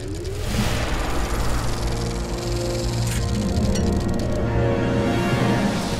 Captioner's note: soft dramatic music; projector whirring